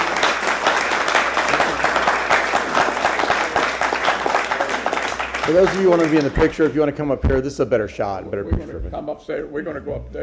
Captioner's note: applause